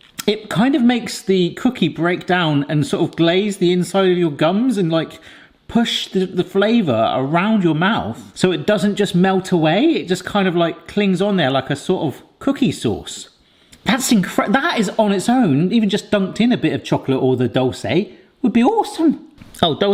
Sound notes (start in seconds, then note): none